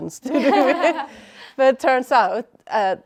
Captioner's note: all laughing